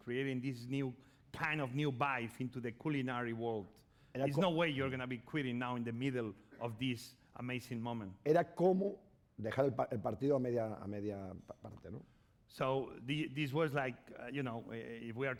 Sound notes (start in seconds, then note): 9.0 speaking spanish